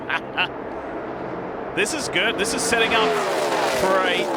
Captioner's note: laughter